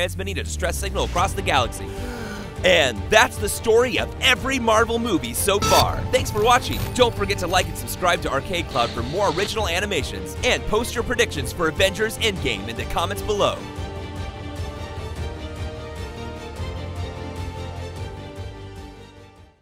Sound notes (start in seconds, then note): 1.9 deep wheezy inhale; 13.9 suspenseful music